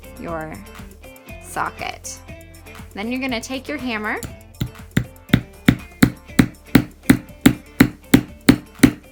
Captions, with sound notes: your socket. Then you're gonna take your hammer (tapping)